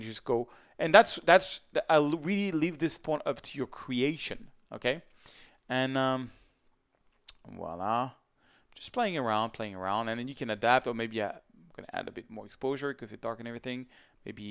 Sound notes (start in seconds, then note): 7.2 speaks in foreign language